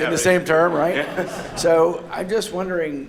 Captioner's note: laughter